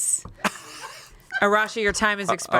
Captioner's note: laughs